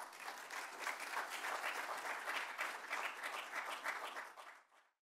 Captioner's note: people clapping